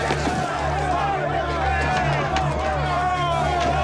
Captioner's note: crowd yelling